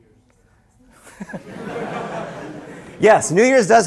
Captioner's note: laughter